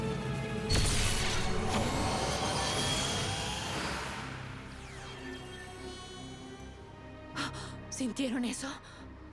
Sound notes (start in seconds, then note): 0.7 zapping; 7.4 gasp